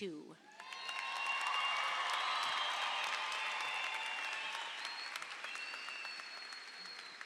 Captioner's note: audience applauds; audience cheers